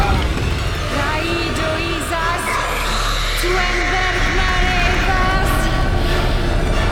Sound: incantations

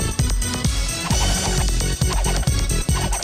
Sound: spinning

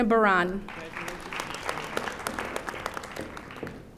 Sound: audience applauding

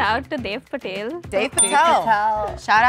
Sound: bell dings

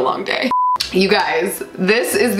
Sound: beep

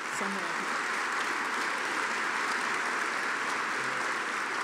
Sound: audience applauding

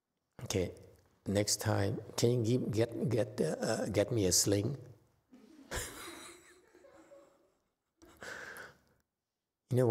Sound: laughs

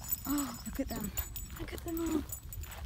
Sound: gasp

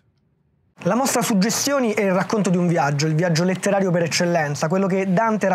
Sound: speaking Italian

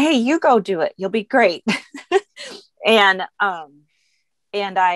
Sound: chuckles

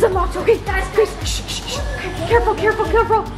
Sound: shushing

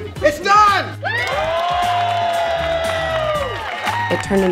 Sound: all cheering

